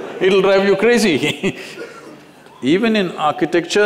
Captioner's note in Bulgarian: Смее се